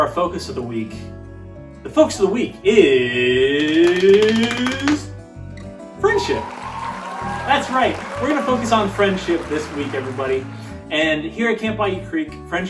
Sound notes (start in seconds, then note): 3.6 drum roll; 6.0 crowd applauding